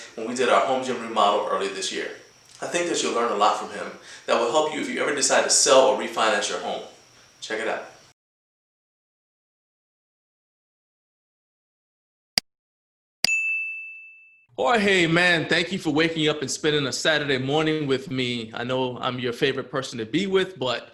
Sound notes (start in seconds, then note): 12.5 click sound; 13.2 bell sound